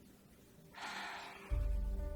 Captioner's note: sighs